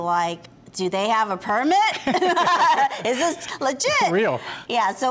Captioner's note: laughs